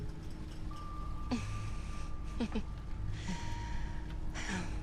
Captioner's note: Isabelle chuckles